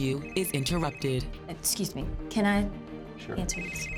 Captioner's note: cell phone rings